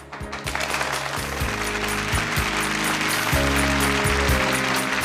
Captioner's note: applause and upbeat music